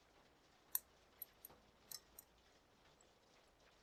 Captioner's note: metallic tapping